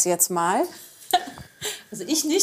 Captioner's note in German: Lachen